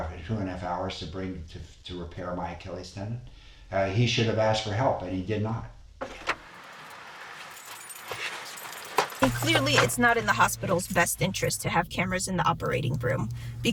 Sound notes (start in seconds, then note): 6.0 door thudding; 6.4 keys clinking